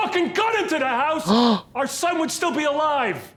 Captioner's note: Trixie gasps